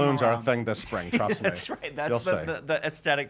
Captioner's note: laughs